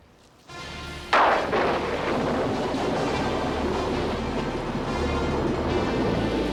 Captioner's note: dramatic music; thunder crashing